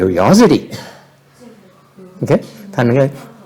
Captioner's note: background chattering